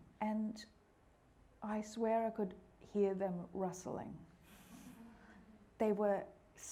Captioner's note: none